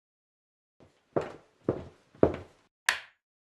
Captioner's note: footsteps